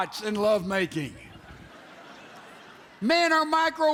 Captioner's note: audience laughs